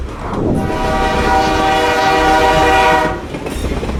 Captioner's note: locomotive whistle